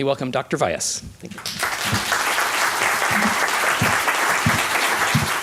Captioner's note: applause